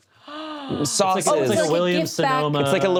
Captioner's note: gasps